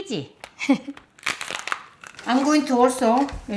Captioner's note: laughs; crab cracking